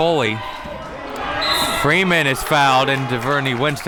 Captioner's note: whistle blows